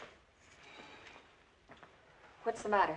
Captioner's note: Griff Exhales